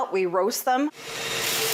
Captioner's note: nat pop - beans roasting :04